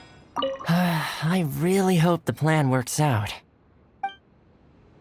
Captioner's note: sigh